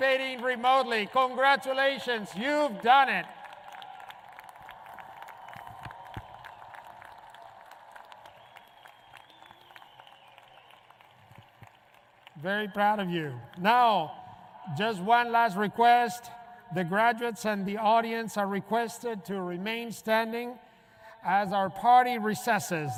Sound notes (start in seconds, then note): 8.1 applause